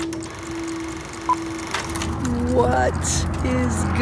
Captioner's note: metal ticking